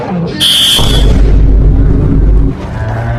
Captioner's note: vine boom 3